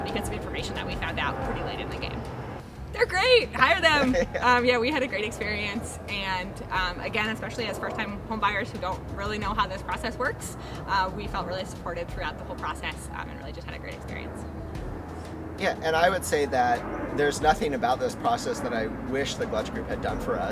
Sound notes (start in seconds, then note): 3.6 man laughing